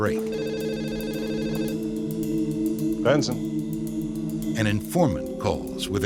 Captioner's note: phone ringing